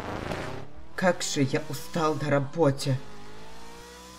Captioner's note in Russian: Немецкий акцент